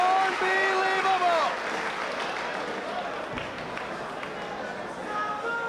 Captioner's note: spectators applauding